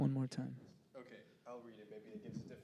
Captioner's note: quietly